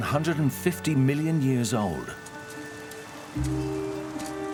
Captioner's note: tools striking land